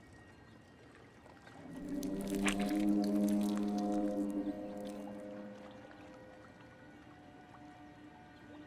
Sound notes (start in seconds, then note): 1.7 flesh squelching